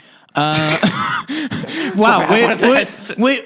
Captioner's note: laughter